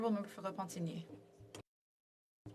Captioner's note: speaking French